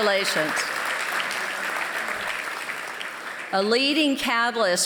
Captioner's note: applause